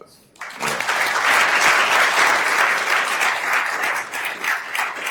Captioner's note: attendees applauding